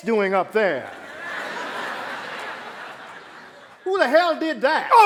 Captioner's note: laughter